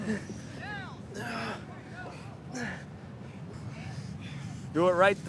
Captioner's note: student grunting